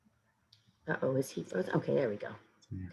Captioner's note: audio glitching